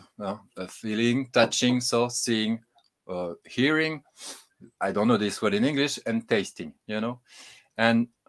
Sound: sniffs

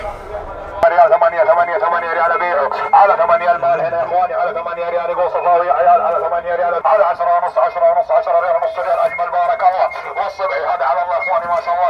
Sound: Arabic

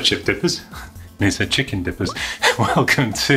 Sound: chuckles

